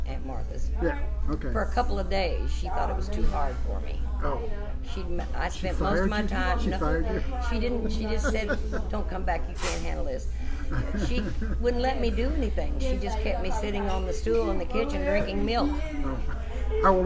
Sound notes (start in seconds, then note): 10.3 laughs